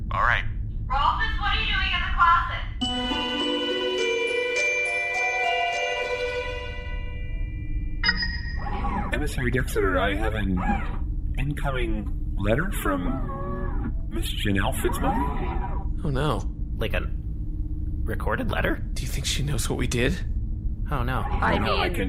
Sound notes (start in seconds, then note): 5.0 intermission music; 7.0 electronic ding